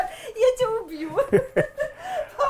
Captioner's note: laughs